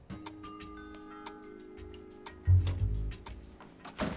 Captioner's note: clock ticking